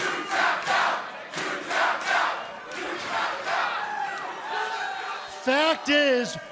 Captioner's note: crowd cheering